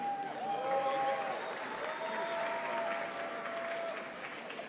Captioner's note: audience applauding